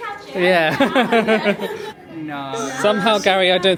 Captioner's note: laughing